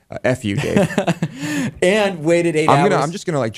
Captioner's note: laughs